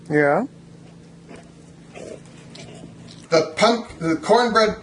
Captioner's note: dog snorting